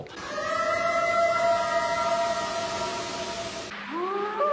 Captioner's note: eerie howl; short howls